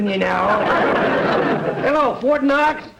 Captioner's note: audience laughter